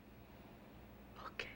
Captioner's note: whispers